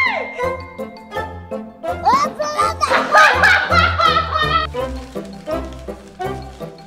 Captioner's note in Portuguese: Risadas